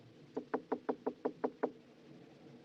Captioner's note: gentle Knocking